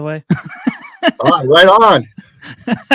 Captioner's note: both laughing